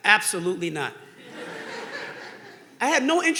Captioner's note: audience laughing